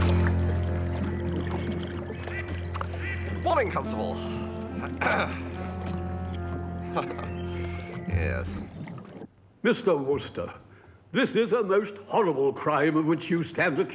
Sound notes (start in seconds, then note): 5.0 clears throat; 6.7 chuckling